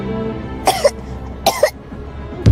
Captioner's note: coughing